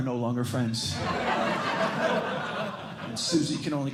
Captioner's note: laughter